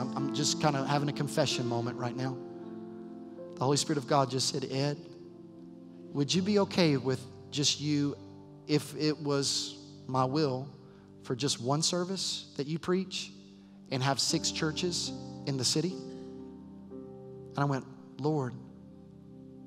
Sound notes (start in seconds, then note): none